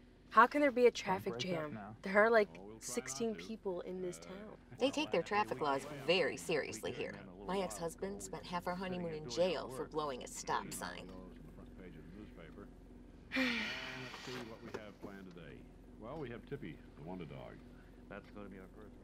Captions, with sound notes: How can there be a traffic jam? There are like sixteen people in this town. They take their traffic laws very seriously here. My ex-husband spent half our honeymoon in jail for blowing a stop sign. [Sigh] [Radio chatter]